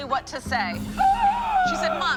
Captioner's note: gasp